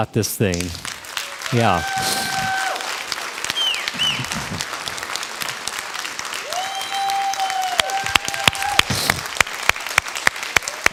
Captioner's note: crowd applause